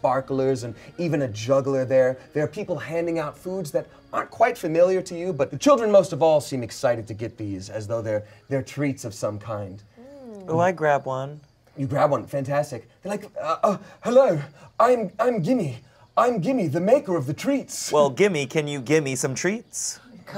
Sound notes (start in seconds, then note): none